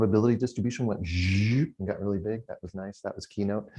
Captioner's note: hums